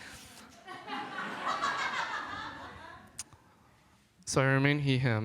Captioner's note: laughter